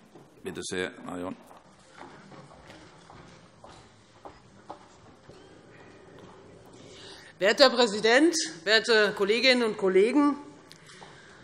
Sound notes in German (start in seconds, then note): none